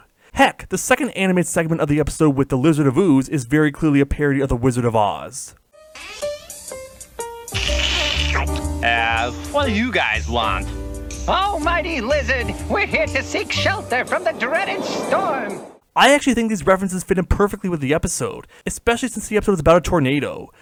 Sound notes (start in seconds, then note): 7.5 slurping